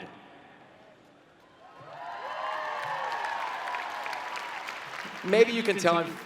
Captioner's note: cheering and Clapping